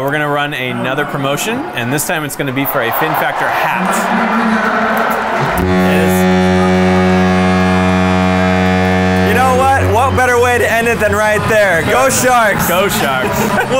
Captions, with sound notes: - We're gonna run another promotion, and this time it's gonna be for a Fin Factor hat. (crowd cheers) (buzzer) - You know what? What better way to end it then right there. Go Sharks! - Go Sharks.